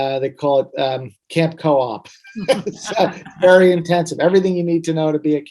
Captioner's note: laughs